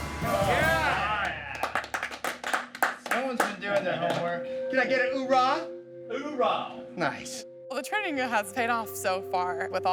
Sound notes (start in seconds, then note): 0.1 applauding